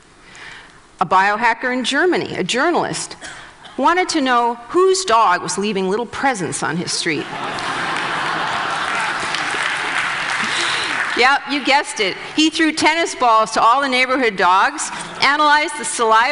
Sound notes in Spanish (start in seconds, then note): 7.2 Risas; 7.4 Aplausos